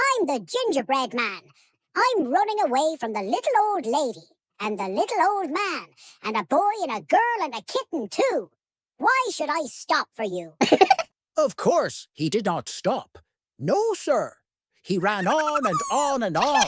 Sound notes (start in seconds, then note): 10.6 giggle; 15.2 high-pitched laugh